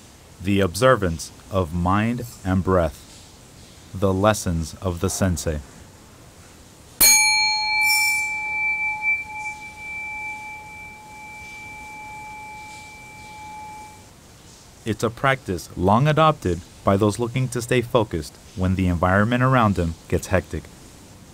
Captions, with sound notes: The observance of mind and breath. The Lessons of the Sensei. (bell chiming) It’s a practice long adopted by those looking to stay focused when the environment around them gets hectic.